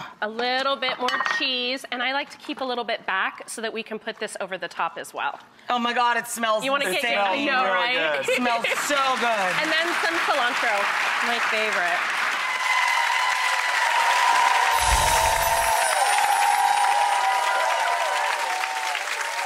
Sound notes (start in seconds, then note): 9.2 audience claps; 12.5 audience cheers and claps